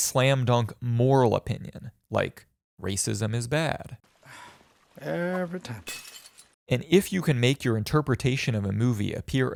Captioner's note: sigh